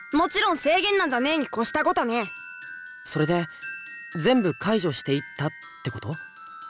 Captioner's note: none